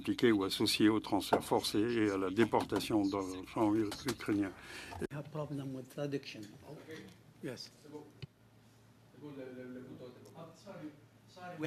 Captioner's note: speaking French